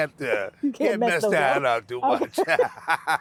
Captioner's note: laughing